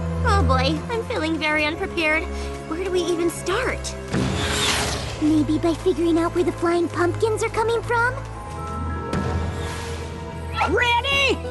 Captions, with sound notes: Oh, boy, I'm feeling very unprepared. Where do we even start? [whoosh] Maybe by figuring out where the flying pumpkins are coming from? Ready?